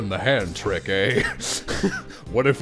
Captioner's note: laughter